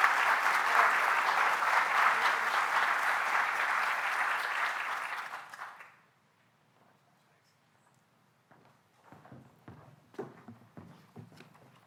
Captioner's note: applause